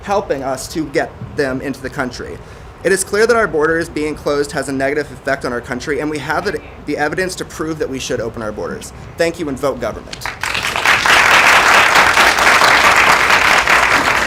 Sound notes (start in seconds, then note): 10.1 applause